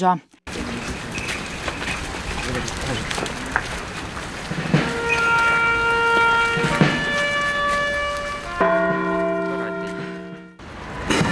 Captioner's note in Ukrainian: Звуки кроків. Лунає оркестр, б'ють у дзвони